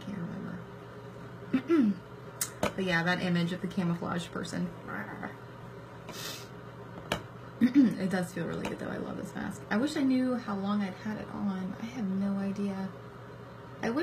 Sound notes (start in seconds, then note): 1.5 clears throat